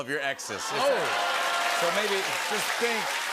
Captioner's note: cheers and applause